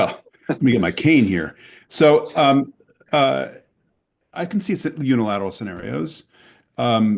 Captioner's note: laughter